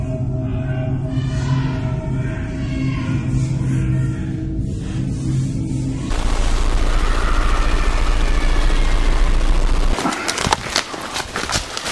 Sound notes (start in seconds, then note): 0.3 distant shouting; 6.4 screaming